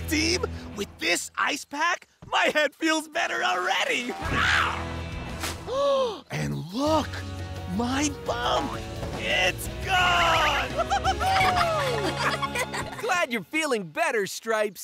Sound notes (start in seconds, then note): 4.0 roars; 5.2 gasping; 9.2 laughing, cheering